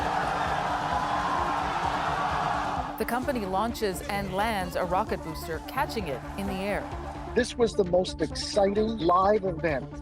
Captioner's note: cheers and Applause